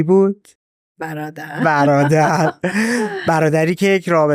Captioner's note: laughs